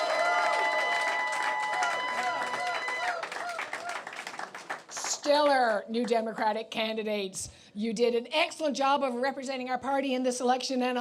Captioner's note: applause